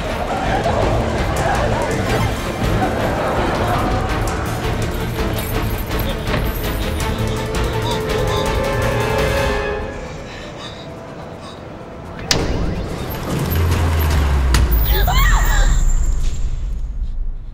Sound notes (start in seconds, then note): 13.4 power down sound